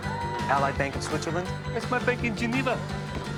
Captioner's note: girls conversing